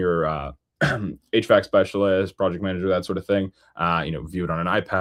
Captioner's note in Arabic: يُصفّي صوته